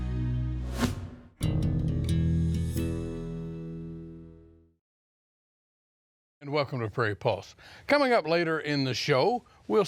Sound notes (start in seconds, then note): 0.7 logo whooshing; 1.8 light upbeat music